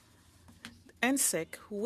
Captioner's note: speaking French